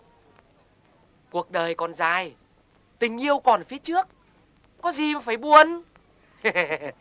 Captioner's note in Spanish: enojada